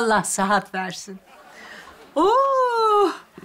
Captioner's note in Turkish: Gülme efekti